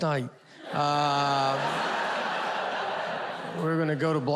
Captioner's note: audience laughs